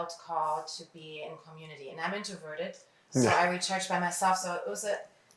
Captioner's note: laughs